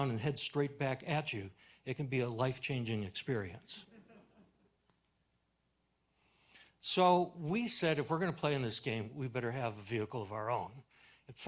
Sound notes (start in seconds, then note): 3.9 audience chuckles